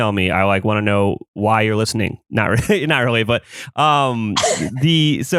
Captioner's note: laughs